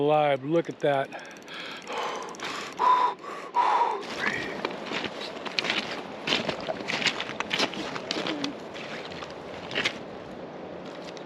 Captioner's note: hyperventilating